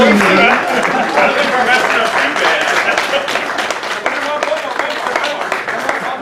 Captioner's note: applause